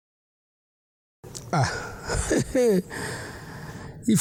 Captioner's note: laughter